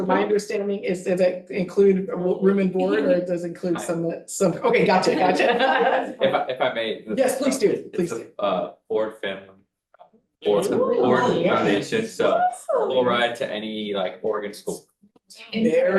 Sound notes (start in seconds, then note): 4.6 board members laughing; 10.4 board members chattering